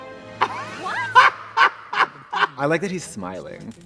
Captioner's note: ominous music; Trixie laughs